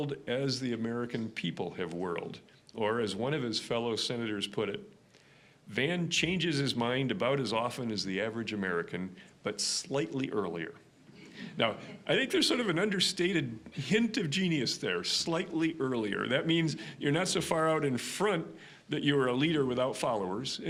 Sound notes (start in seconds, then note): 10.7 audience chuckling